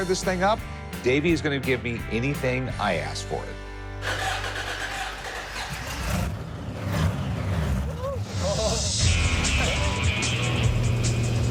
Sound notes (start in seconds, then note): 4.0 engine starting; 5.6 engine revving